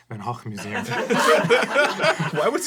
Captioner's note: laughing